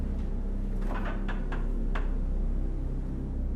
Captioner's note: refrigerator opens